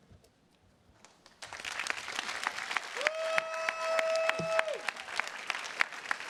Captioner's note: attendees cheers and claps